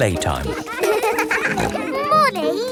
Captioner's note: peppa snorting